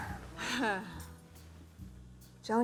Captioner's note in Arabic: جوان تضحك